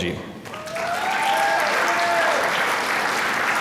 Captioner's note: applause